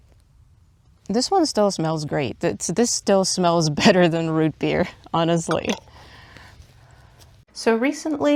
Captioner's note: jar closes